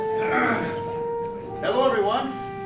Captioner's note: clears throat